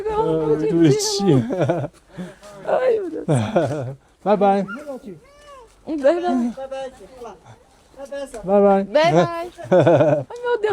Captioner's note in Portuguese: risadas